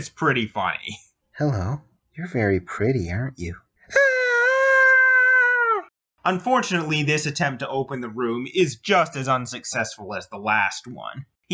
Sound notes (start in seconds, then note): 3.9 high-pitched scream